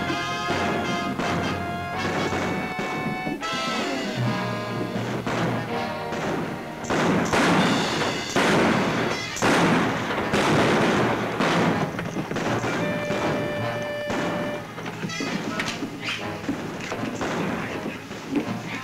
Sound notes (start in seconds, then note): 7.3 exciting music; 7.3 guns bang